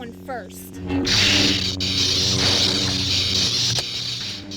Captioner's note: sabers clashing